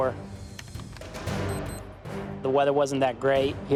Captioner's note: computer keyboard typing